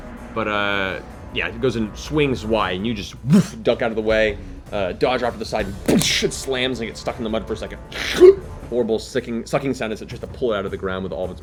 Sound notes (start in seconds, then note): 5.3 boosh; 7.8 sucking noise